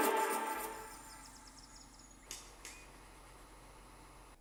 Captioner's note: birds chirping